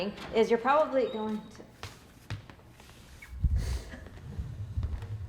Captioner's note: door opens